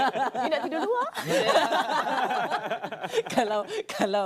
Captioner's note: laugh